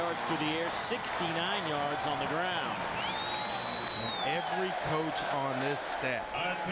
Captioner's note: crowd noise